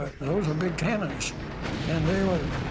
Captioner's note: artillery fire